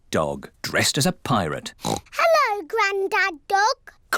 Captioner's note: oinks